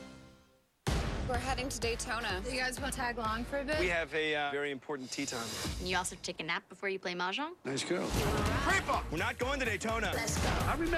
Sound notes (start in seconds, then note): none